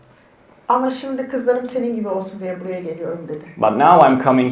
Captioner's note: speaks in Turkish